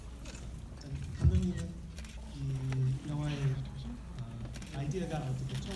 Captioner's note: speaking in foreign language